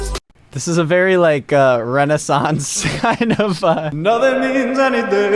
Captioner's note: laughs